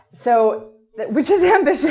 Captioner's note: laughs